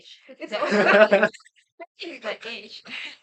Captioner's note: everyone laughs